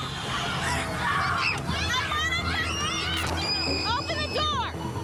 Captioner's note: children yelling